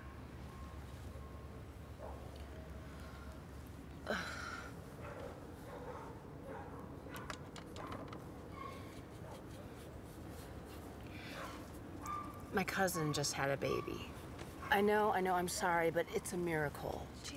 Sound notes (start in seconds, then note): 4.0 exasperated sigh